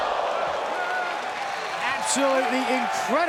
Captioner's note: fans applauding